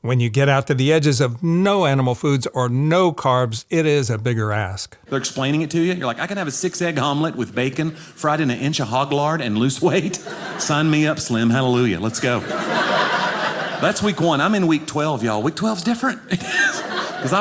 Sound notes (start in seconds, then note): 12.2 audience laughing; 16.3 laughs